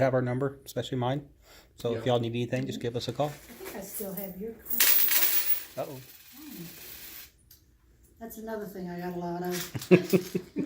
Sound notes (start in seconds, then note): 4.6 sound of coins falling; 9.7 laughter